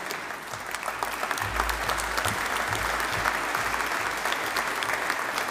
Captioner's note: audience applauding